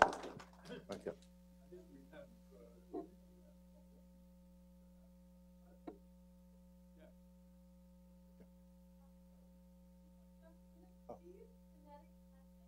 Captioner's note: applause